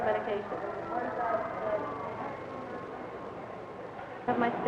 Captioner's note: background office noise